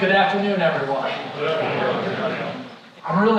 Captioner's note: crowd